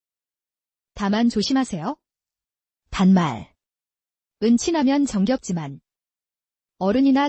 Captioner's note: casual speech